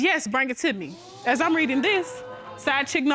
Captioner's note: audience gasping